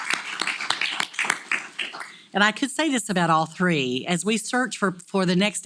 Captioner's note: applause